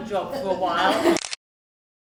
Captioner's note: camera clicks